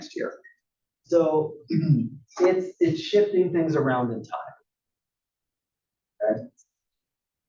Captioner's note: cough